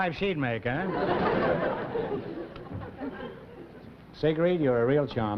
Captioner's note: laughter